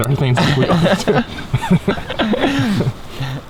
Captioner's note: both laughing